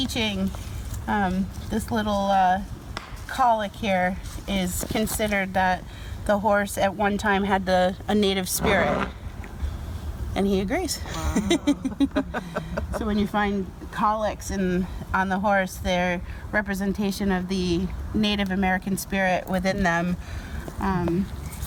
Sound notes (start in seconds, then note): 8.5 horse whinnies; 11.1 laughs